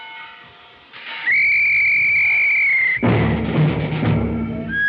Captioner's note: blows whistle